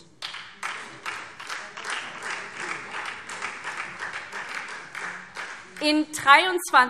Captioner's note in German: Beifall SPD